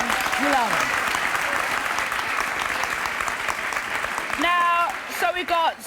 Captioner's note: applause